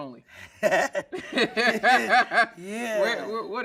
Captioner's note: everyone laughing